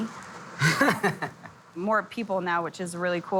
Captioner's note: laughing